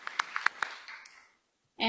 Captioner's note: applause